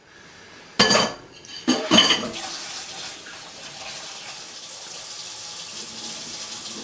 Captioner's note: dishes clinking; water running